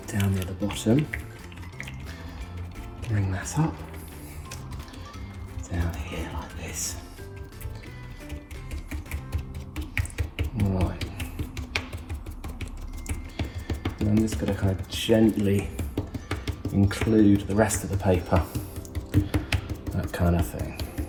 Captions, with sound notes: down near the bottom, bring that up, down here like this. (paint tapping) All right, now this is gonna gently include the rest of the paper, that kind of thing.